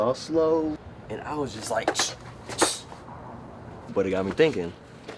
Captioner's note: mimics whooshing